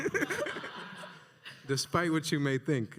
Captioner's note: laughs; audience laughing